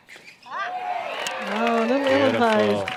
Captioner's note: crowd cheers